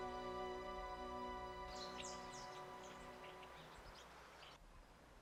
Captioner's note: birds chirping